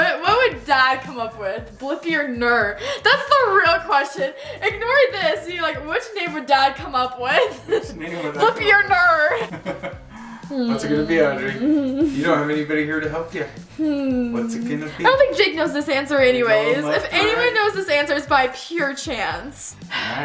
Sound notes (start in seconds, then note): 9.2 laughs; 19.9 sighs